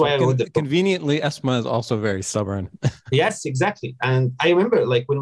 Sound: laughs

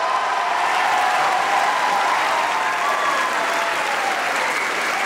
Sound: audience applauds

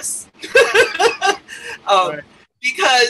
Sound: laughs

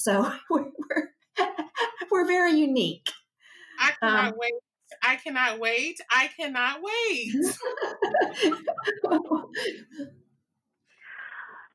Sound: laughter

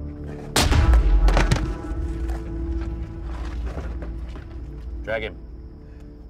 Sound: blow lands; Thomas crashes

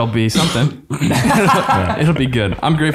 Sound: all laughing

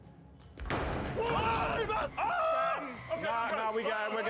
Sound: clattering; screams

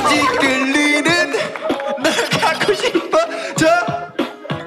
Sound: laughing

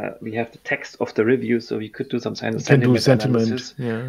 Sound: speaks faintly

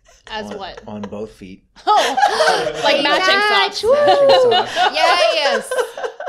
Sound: laughter, celebration

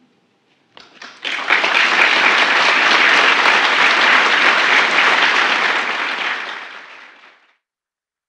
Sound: applause

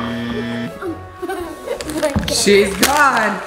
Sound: laughing

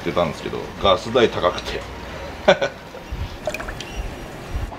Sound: laughter

